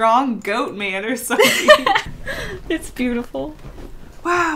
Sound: laughs

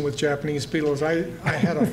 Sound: laughter

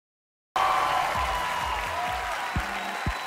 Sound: crowd applause

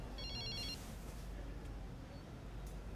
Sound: phone ringing

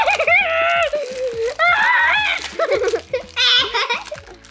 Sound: laughing and screaming

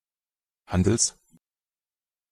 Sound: fast Pronunciation

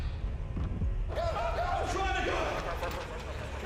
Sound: screams

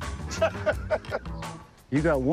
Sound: laughing

